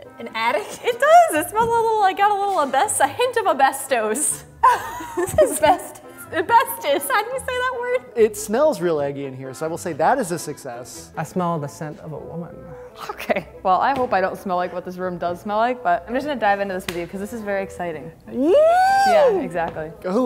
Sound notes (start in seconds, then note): 18.5 squeals